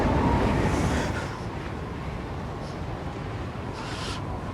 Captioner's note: shivering